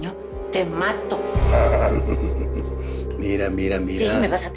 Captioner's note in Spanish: Risas